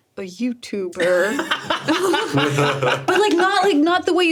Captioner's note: laughs